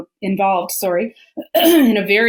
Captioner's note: clears throat